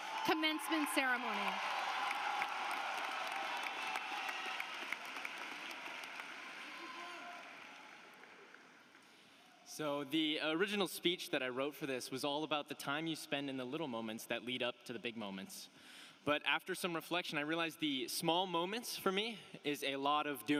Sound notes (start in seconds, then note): 8.4 applause